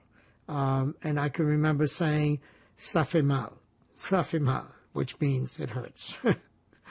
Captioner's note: french